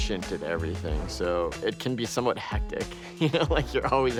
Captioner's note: laughing